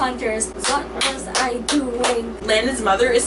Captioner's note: clap